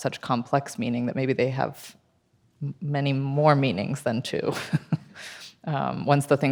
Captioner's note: laughs